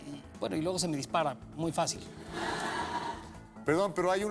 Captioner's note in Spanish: risas